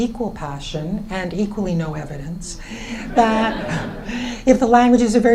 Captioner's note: laughs